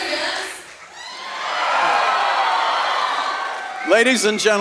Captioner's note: audience cheering